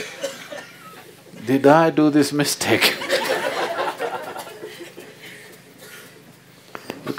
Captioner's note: laughter